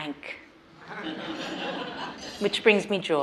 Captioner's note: participants laugh